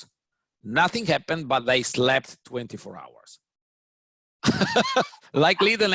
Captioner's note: laughs